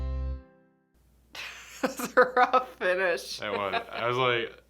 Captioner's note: laughs